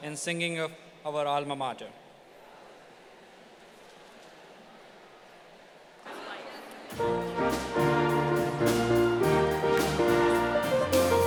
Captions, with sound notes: in singing of our alma mater. (audience chattering) (instrumental music)